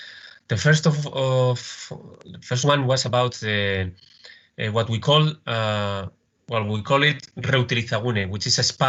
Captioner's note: speaks Spanish